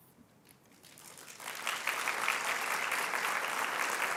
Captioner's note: applause